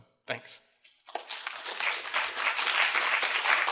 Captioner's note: applause